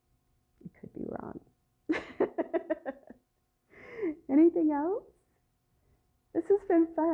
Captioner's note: laughter